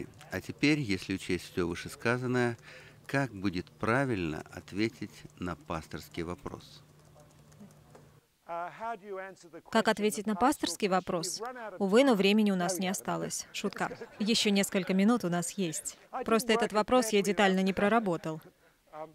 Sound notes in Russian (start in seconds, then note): 13.5 смех